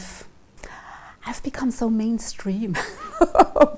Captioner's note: laughing